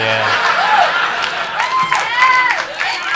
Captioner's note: laughing